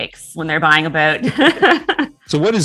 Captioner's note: all laughing